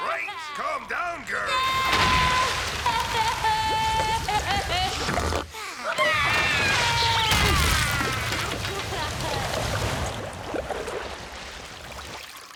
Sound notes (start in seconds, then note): 1.5 crying; 4.8 sighing; 5.8 crying